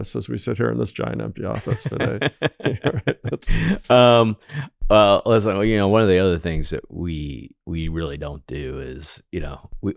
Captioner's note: laughs